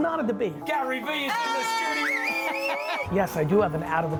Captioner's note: cheering